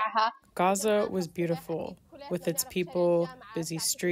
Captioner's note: through translator